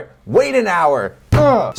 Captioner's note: grunts; table thuds